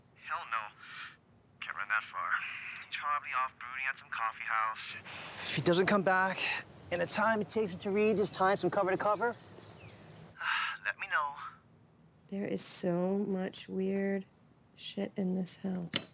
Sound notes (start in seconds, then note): 10.4 sighs